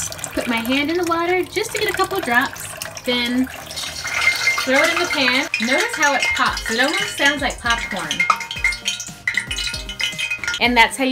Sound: tosses water in frying pan

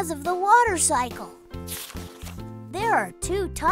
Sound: paper rustling from turning the page

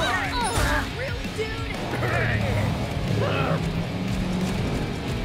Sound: grunting; engines revving

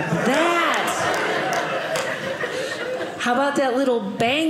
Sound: audience laughing

